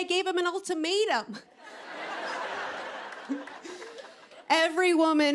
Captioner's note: laughter